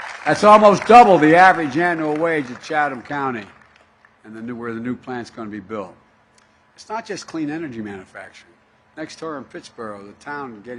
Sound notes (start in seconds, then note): 3.7 applause